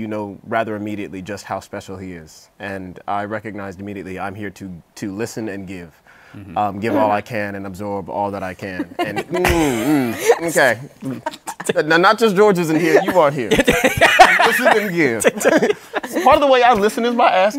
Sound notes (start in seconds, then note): 8.7 laughs; 11.0 laughter; 12.9 laughter